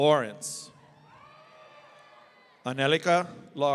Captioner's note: audience cheering